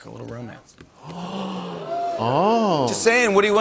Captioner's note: gasps